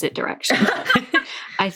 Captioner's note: laughing